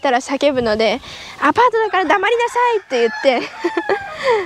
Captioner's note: laughter